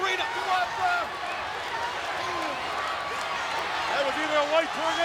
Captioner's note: crowd yelling